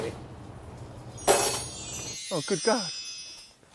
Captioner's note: bells tinkling